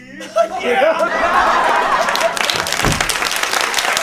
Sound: laughing intensifies

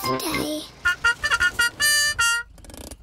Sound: horn tooting

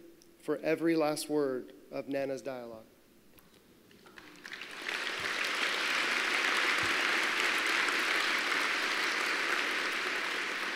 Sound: applause

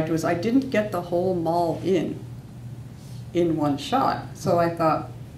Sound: none

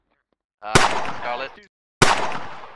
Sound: gunshot

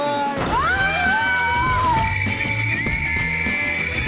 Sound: screaming

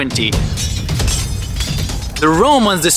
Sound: swords clanging

